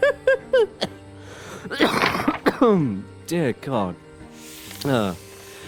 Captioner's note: laughs; chokes